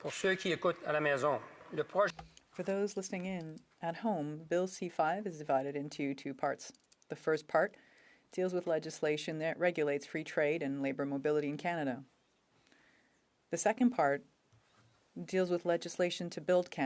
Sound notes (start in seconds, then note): 5.3 speaking French